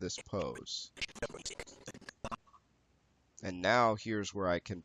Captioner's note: audio skipping